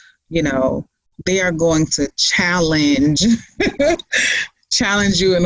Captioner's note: laughs